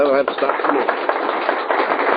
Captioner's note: aplause